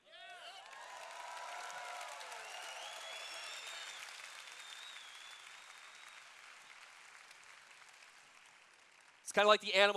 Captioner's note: cheers